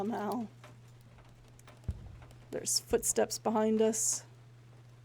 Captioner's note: footsteps